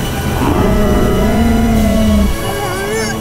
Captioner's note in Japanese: ドラゴンの雄たけび